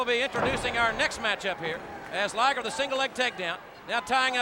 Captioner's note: body thudding